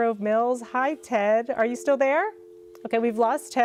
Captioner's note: dial tone rings